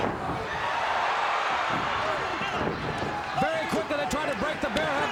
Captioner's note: crowd cheers